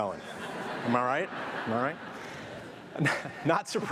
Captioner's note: audience laughing